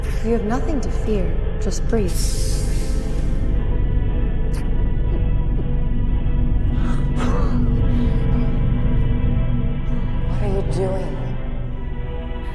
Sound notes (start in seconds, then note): 2.2 pensive music; 2.2 air hissing; 7.0 Bobby gasping and coughing